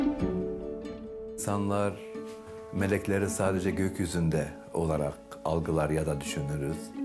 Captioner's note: pensive music; speaks in foreign language